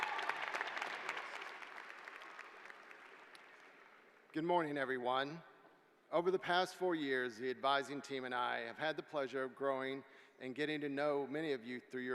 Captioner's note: applause